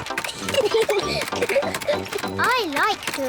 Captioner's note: giggling